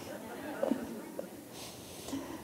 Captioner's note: laughter